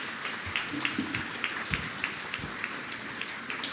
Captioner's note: applause